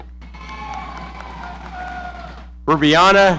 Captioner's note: audience cheering